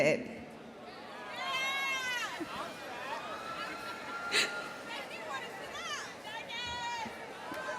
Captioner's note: audience exclaiming